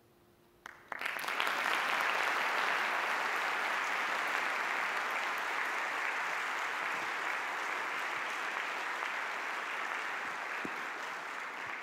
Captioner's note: audience applause